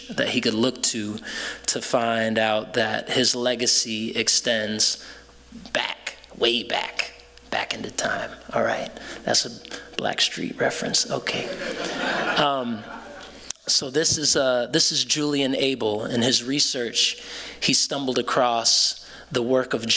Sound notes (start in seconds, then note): 11.4 laughter